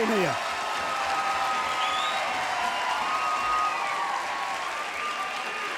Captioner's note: crowd cheering and clapping